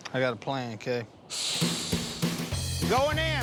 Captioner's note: hissing